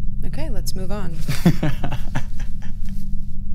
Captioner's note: laughs